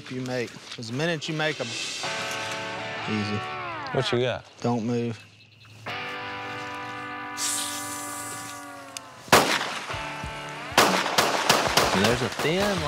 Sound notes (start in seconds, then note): 8.6 gunshots